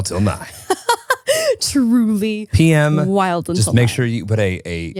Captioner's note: laughs